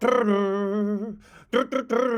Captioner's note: humming